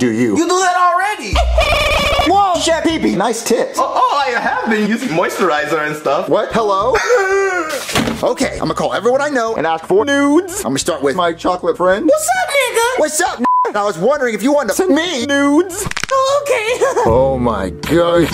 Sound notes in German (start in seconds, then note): 7.3 stöhnt